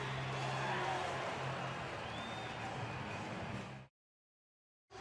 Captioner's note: pa announcement